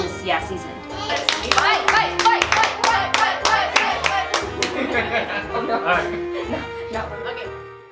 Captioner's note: laughter